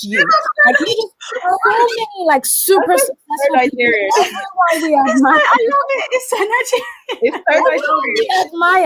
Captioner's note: all laugh